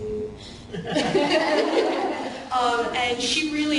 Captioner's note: laughing